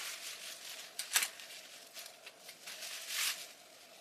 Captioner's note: crackle and sticking sounds